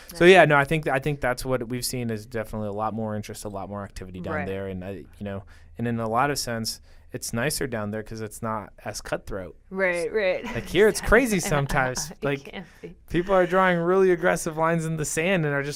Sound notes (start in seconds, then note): 10.4 laughing